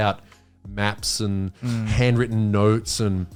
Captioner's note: all laughing